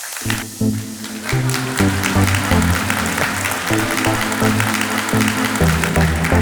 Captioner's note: audience applauding; upbeat music